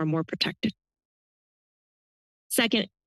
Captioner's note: pause